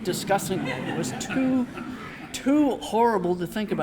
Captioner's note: audience laughing